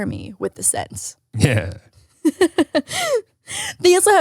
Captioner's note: laughs